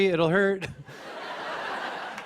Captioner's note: laughter